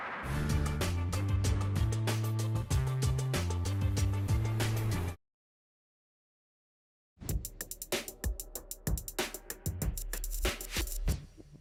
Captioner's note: explosions